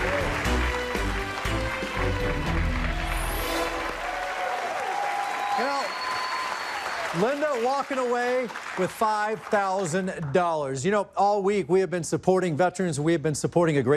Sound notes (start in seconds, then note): 0.0 dramatic music; 4.6 cheers and applause